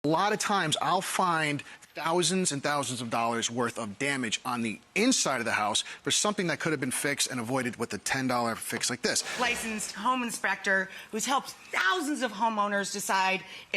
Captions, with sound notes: A lotta times I'll find thousands and thousands of dollars worth of damage on the inside of the house for something that could've been fixed and avoided with a $10 fix like this. (air whooshes) Licensed home inspector who's helped thousands of homeowners decide